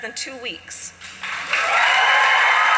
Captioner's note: applause